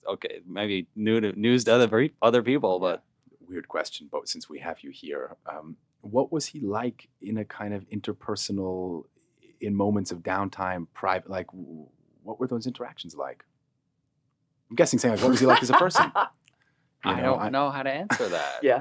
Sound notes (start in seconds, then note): 15.1 laughing